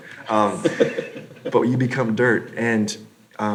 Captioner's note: laughs